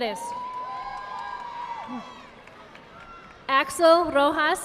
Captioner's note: audience applauding